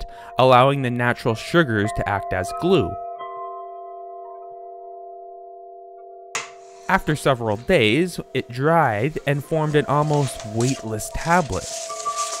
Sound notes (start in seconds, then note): 3.3 bell tones